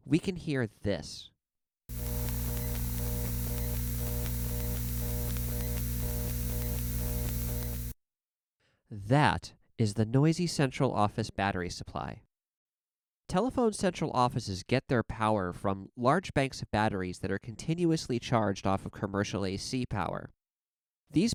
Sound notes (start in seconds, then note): 1.9 hiss, crackles, faint pulsing buzz